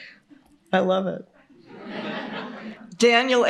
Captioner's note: laughter